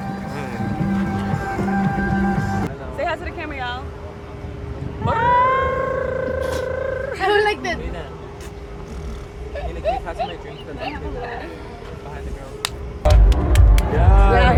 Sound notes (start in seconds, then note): 5.1 female trilling